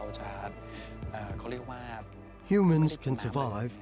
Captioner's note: speaking Thai